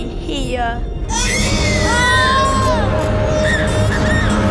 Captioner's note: baby screams